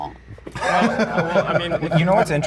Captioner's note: laughing